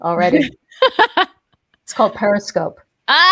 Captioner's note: laughs